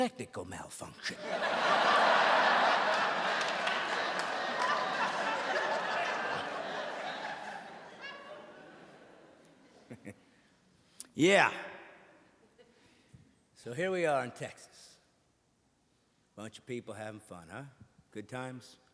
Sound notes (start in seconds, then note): 5.0 audience laughing